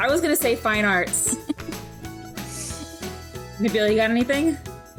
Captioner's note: laughing